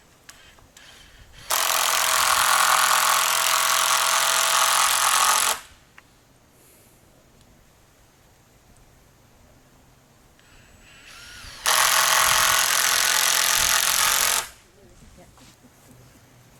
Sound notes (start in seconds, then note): 3.8 sound of screw gun